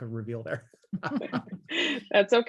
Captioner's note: laughs